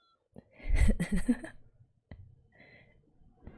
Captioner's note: laughs